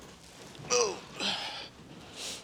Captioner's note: groans